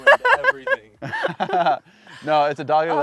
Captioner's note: laughs